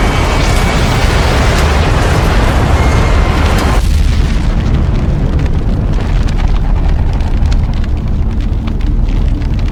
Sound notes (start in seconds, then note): 0.2 explosion booms; 3.8 spacecraft thuds; 5.3 flames whooshing